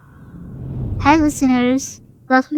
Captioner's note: screen swooshes